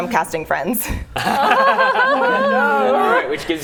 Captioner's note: laughing